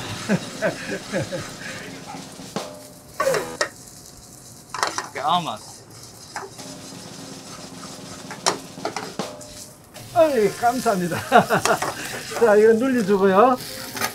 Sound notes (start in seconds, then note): 0.0 laughs; 3.3 buzzer beeping; 6.5 drum roll music; 10.4 speaking Korean